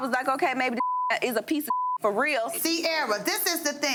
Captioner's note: beep